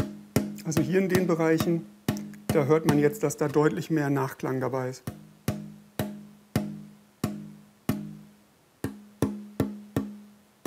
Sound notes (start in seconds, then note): 9.2 dull knocking